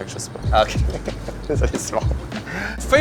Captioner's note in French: rire